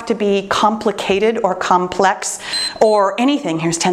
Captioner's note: timer beeps